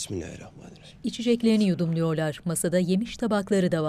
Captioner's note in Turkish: Hep bir ağızdan